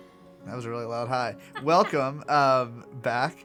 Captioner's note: laugh